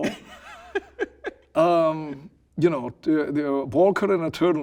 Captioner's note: laughing